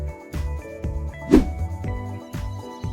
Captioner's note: swoosh